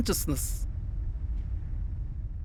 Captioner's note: rumbling continues in the background